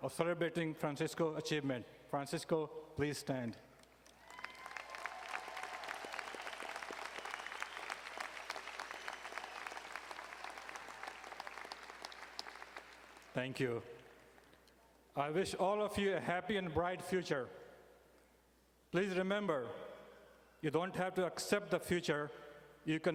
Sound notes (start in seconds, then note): 4.0 audience cheering and applauding